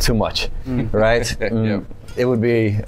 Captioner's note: chuckles